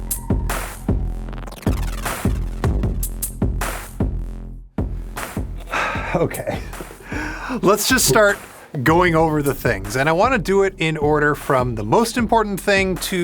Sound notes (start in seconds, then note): 5.6 sighs